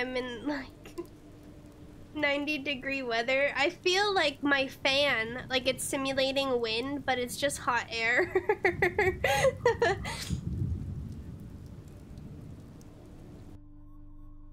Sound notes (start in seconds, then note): 8.1 laughter